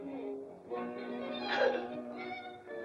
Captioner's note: playful music; gasps; playful music